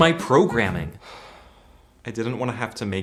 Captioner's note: sigh